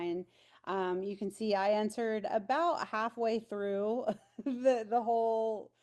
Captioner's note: chuckles